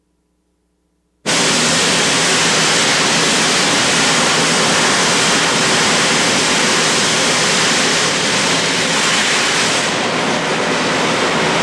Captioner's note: sound of welding